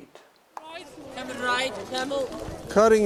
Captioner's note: tourists chattering